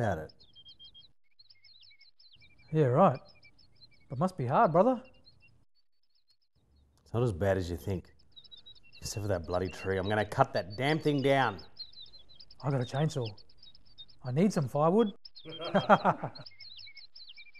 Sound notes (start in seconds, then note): 1.0 birds chirping; 5.3 birds chirping; 8.0 birds chirping; 15.4 both men laugh; 16.6 birds whistling